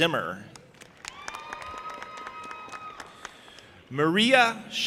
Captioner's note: audience applauding and cheering